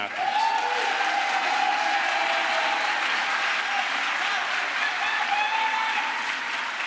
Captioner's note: crowd applause